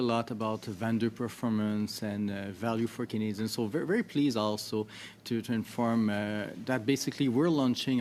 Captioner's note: speaking French